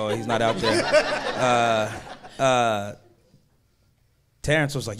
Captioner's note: audience laughing